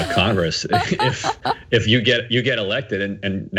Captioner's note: laugh